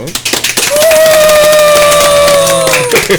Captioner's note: applause